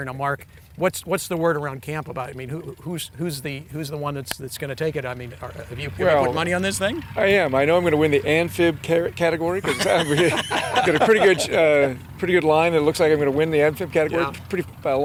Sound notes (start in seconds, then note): 9.5 laughing